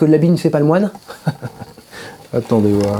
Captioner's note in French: rires